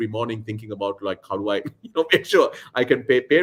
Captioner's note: laughs